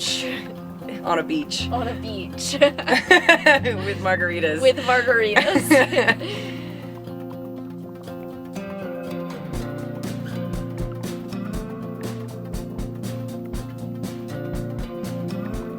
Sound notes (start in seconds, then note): 2.0 both laugh; 7.3 light music plays